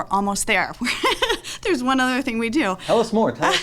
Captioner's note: laughs